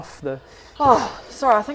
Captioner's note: sigh